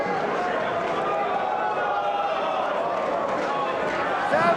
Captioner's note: spectators exclaiming